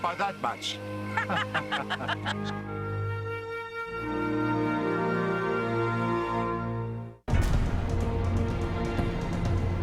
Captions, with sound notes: Not by that much. (laughing) (dramatic orchestral music)